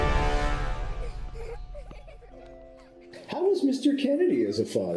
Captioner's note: children giggling